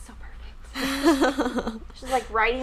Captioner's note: laughing